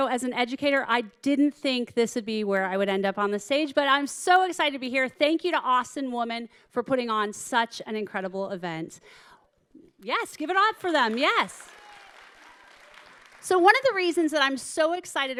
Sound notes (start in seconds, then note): 10.6 audience clapping